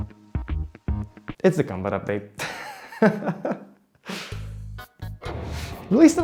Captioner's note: chuckle